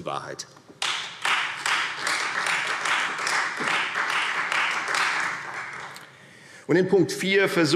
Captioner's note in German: Beifall Freie Demokraten und vereinzelt SPD